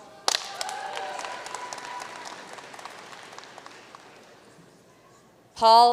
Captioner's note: audience cheering and applauding